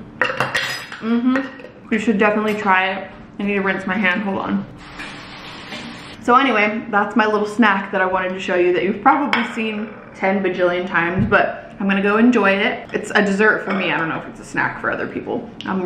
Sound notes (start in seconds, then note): 0.3 utensil clanging; 0.5 lid clacking; 4.8 water swooshing